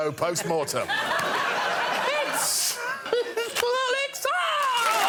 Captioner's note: laughter; cheering and applause